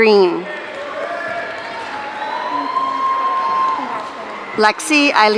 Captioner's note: audience cheering